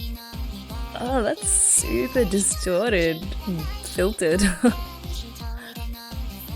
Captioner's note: laughs